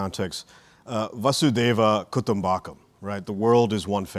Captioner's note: recites and Indian-language expression